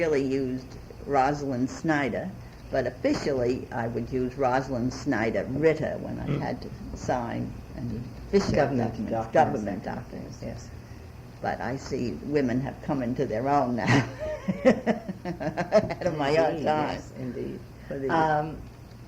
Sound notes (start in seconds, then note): 13.8 laughs